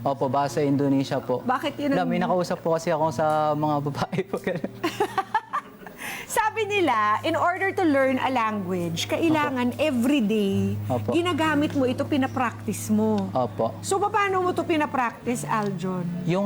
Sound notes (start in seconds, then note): 4.0 laughter